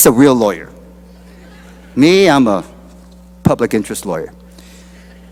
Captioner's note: laughter